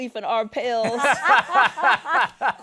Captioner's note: both laugh